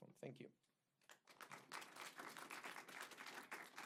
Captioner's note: applause